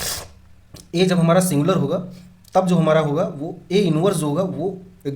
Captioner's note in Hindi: नाक से की जाने वाली आवाज़